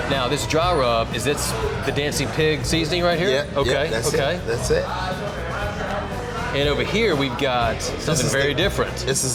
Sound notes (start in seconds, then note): 5.3 people chatting; 5.3 rock music